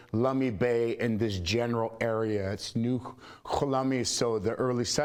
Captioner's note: speaking foreign language